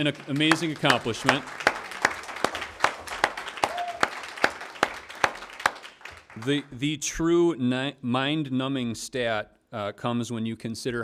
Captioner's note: applause